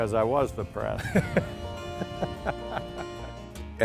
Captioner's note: laughter